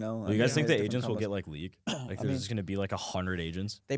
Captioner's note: gasps